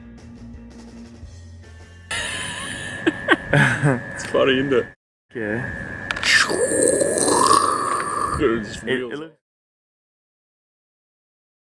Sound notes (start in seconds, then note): 2.1 laughing; 6.2 crackling noises